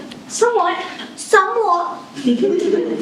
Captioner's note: poor imitation of posh accent; giggling